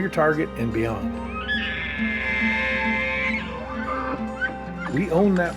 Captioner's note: elk bugling